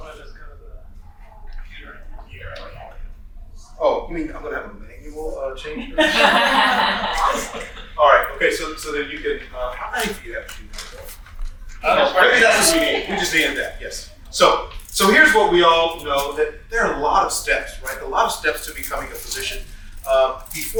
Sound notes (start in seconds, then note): 5.7 group laughing